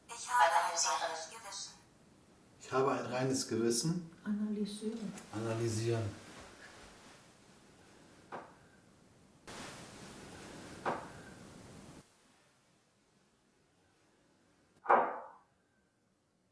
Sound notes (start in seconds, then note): 6.3 noise/crack